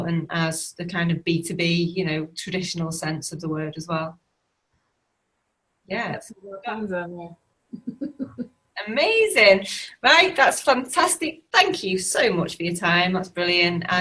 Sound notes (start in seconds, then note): 7.8 laughs